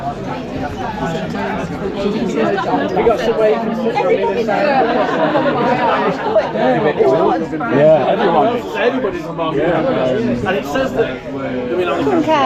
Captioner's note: indistinct chatter